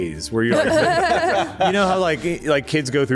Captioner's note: laughter